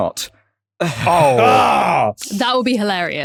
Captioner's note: groan; chuckles